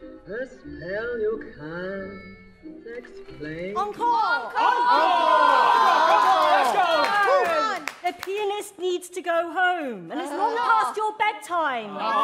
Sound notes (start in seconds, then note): 4.7 shout